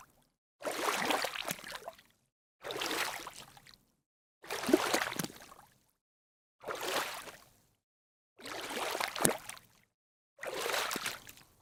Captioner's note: splashing sounds